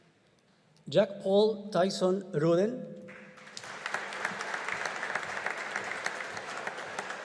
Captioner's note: audience applauding